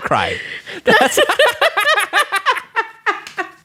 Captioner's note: both laughs